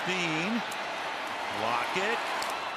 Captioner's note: cheering